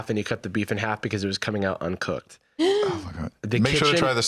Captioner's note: gasps